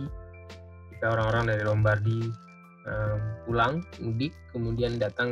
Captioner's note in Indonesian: gangguan sinyal